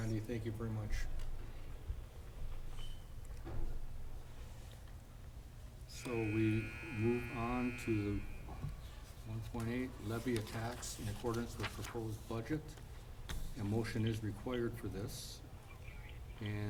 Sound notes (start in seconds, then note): 5.9 sports buzzer buzzing